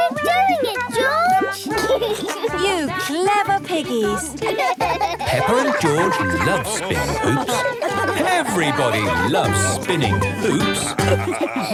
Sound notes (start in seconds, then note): 2.2 laughs; 4.9 both laugh